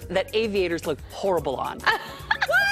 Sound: laughter

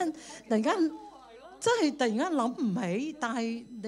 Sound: Cantonese

